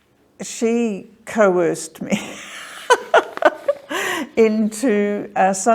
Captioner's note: laughs